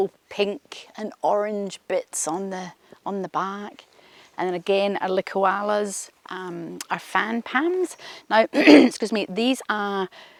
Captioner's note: clears throat